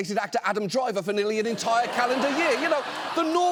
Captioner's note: audience laughs